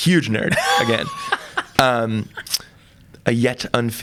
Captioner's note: laughs